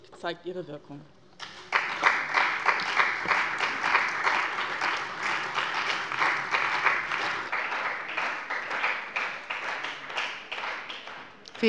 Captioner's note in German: Beifall bei dem BÜNDNIS 90/DIE GRÜNEN und der CDU